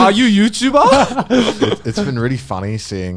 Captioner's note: laughing